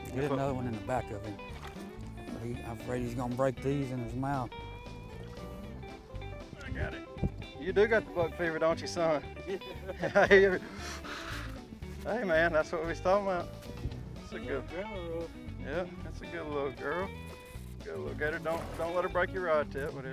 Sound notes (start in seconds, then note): 9.4 laughing